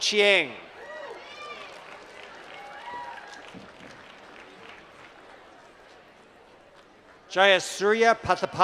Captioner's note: applause